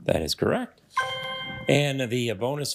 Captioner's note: triumphant chime